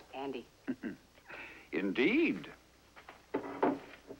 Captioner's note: chuckles